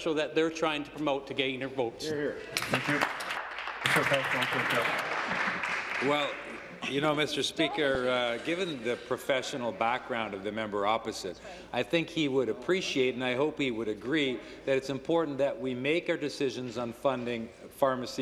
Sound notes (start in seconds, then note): 7.2 applause